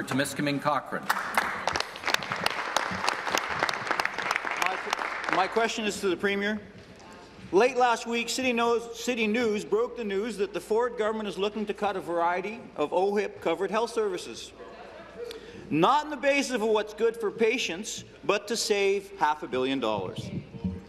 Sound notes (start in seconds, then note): 4.9 applause